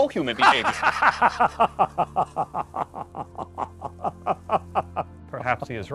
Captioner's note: laughter